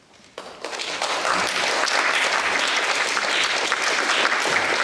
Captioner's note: audience applauding